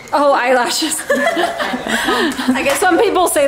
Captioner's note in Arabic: تضحكان